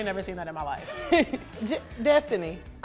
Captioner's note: laughs